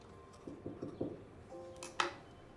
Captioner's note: knock